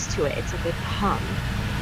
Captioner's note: server hum